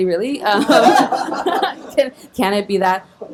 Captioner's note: audience laughing